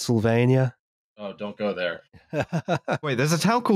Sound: laughs

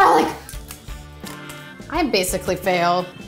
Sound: garlic crunching

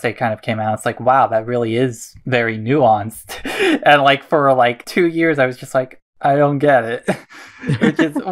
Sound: laughs

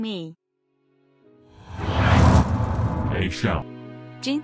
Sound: flapping wings and chains jingling

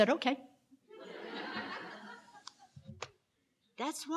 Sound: loud laughs

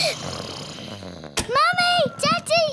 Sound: both giggling; snoring

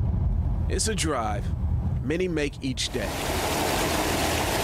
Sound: / : nats water nats

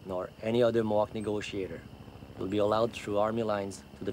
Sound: helicopter whirring

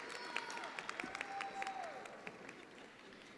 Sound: attendees applauding

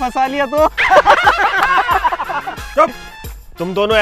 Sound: laughing

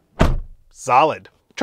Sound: door clicks shut

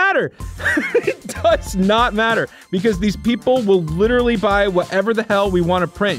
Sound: laughing

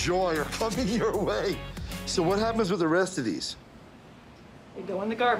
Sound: laughs

